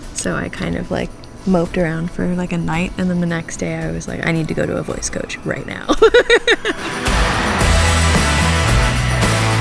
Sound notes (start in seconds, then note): 5.9 laughs; 7.0 upbeat music